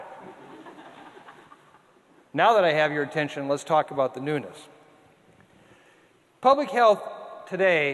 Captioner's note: audience laughter